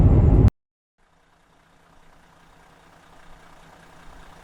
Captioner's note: truck revving